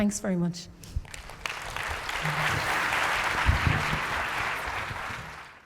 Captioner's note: audience applauding